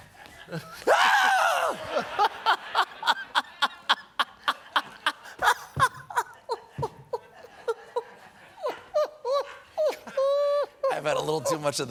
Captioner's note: laughter